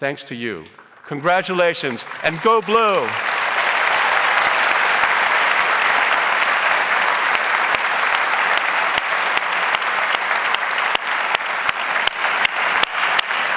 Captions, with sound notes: Thanks to you, congratulations, and Go Blue! (audience applauds)